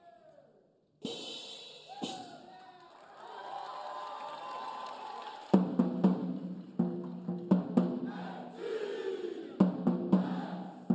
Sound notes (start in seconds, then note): 1.1 cymbals clanging; 3.6 audience cheering; 5.5 upbeat drumming music